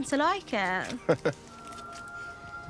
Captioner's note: Nikolai chuckles